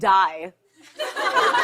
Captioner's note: laughter